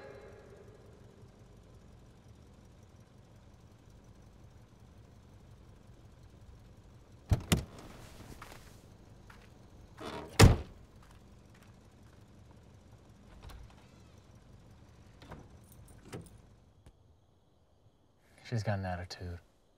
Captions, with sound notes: (latch clicks) (hinges creaking) (door thuds) - She's got an attitude.